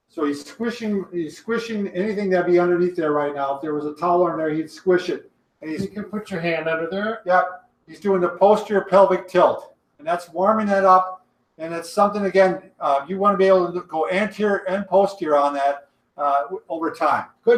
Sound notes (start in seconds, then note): none